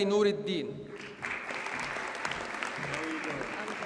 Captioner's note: audience applauds